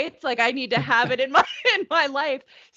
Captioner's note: laughing